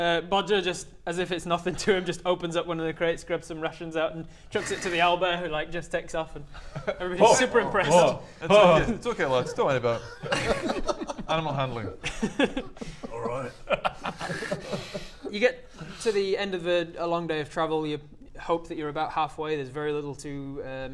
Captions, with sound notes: Bodger just, as if it's nothing to him just opens up one of the crates, grabs some rations out chucks it to the owlbear who like just takes off and everybody's super impressed *impressed noises* It's okay, it's okay lads don't worry about it Animal handling Alright *laughs* You get to the end of a long day of travel you hope that you're about halfway, there's very little to um